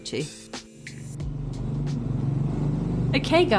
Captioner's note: engine noise